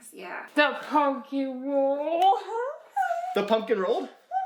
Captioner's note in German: lacht